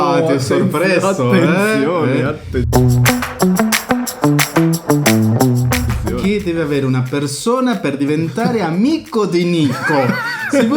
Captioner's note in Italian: risate